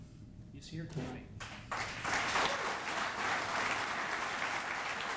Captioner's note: audience applauding